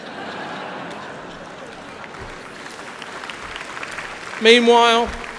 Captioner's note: laughter